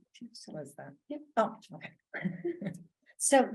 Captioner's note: laughs